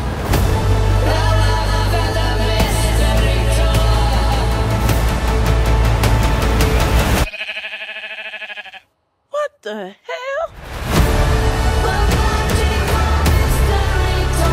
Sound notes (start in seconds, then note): 7.2 baa-ing